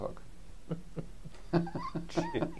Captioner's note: laughs